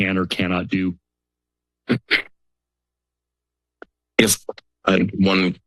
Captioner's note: silence